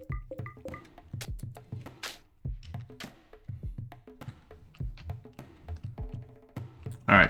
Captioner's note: silence